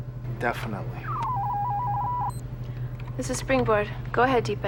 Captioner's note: electronic noises